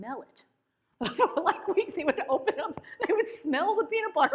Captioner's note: laughs